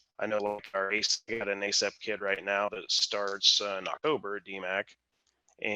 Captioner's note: audio glitch